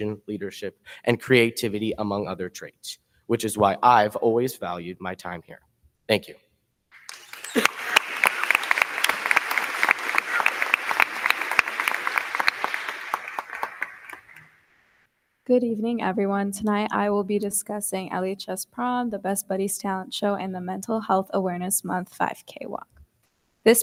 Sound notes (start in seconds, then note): 6.9 crowd cheering; 6.9 crowd clapping